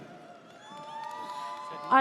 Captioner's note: audience cheers